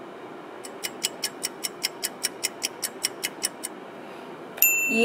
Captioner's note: clock ticking